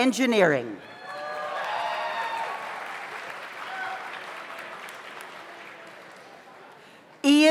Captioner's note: audience cheers; audience applauds